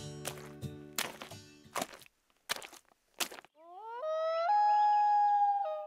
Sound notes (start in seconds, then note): 1.6 clumping footsteps; 3.7 howling